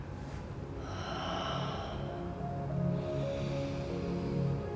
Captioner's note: heavy breathing